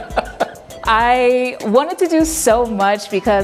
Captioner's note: laughs